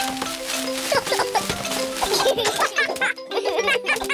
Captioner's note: peppa and george giggle